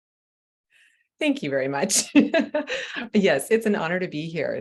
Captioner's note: giggling